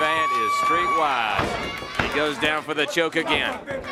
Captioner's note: crowd chatter